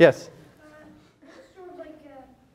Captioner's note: laughter